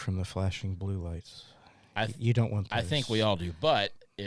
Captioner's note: laughs